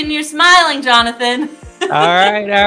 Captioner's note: laughing